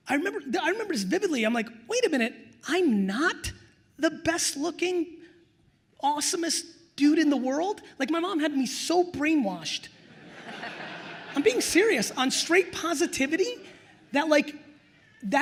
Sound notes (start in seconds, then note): 10.0 attendees laughing